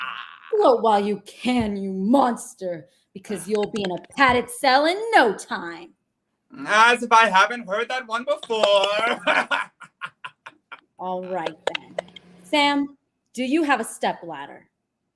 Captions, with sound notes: - Gloat while you can, you monster, because you'll be in a padded cell in no time. - Ah, as if I haven't heard that one before. (cackles) - Alright then. Sam, do you have a step ladder?